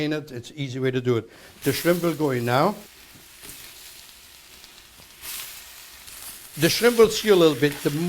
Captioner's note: sizzling